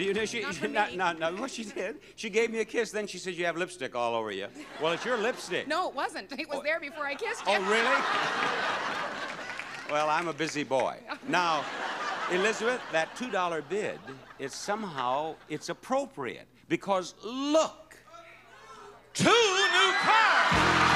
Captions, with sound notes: Not from me. What she did, she gave a kiss then she says, "You have lipstick all over you." (audience laughs) Well, it's your lipstick. No, it wasn't, it was there before I kissed you (laughs). Oh really? (audience laughs) Well, I'm a busy boy. (audience laughs) Now, Elizabeth that $2 bid it's, somehow, it's appropriate because look... Two new cars!